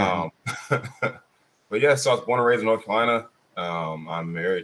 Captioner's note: laughs